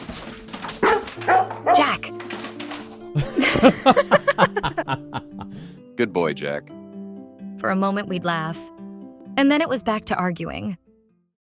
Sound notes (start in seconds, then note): 3.1 laughing